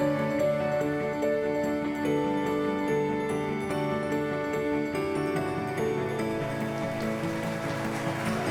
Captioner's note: audience applause